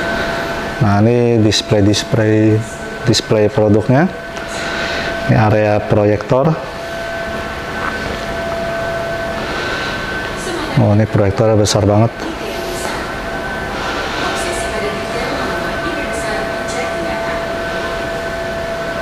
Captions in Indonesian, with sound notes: nah, ini display-display, display produknya, (menghela nafas) display produknya, ini area proyektor, (menghela nafas) ini area proyektor, (menghela nafas) wah, ini proyektornya besar banget.... (suara mesin) (suara pengumuman)